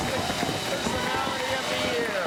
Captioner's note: cheers and applause